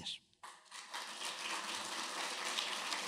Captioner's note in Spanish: aplauso